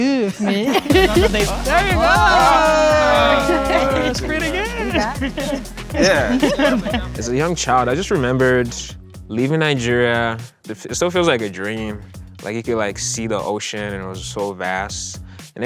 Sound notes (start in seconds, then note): 2.8 all cheering; 2.8 upbeat music